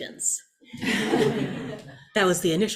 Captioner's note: audience laughs